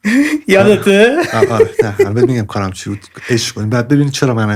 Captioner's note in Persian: خنده